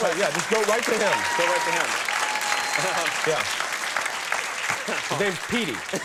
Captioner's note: audience applauds and cheers